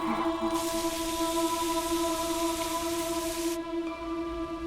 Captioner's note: rain falling; soft music